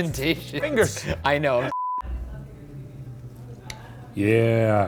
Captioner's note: laughing; screen beeps